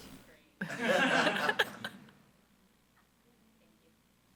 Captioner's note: all laughing